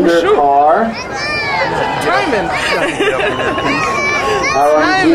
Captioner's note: crowd cheering